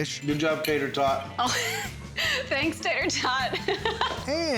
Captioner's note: laughing